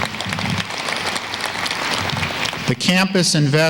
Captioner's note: applause